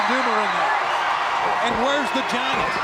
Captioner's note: crowd cheering